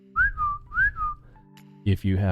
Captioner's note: whistling